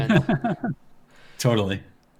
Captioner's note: laughs